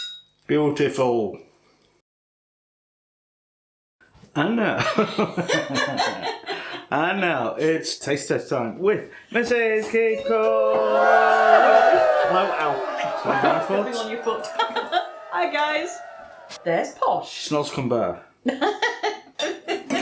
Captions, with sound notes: Beautiful. "And now..." [ GIGGLING ] "And now it's taste test time with Mrs Keef Cooks" [ CHEERING ] "Hi guys. There's posh" "Snozzcumber"